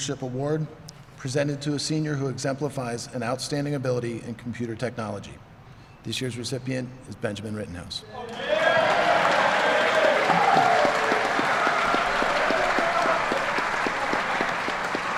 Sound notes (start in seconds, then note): 13.1 applause